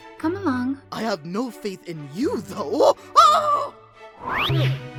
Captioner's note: screams